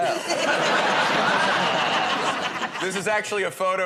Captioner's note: laughter